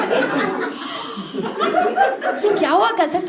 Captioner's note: demon noises